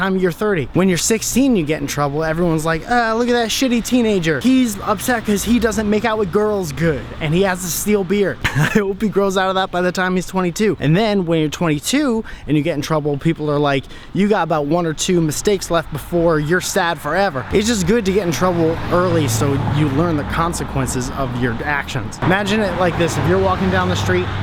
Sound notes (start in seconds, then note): 8.3 haha